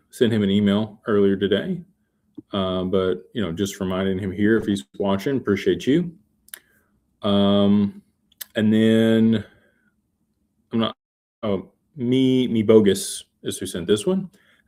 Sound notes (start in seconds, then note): none